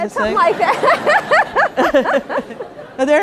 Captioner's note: laughter